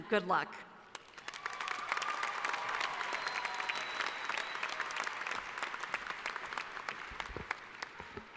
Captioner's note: applause